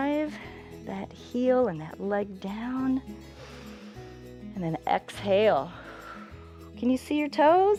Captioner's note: exhales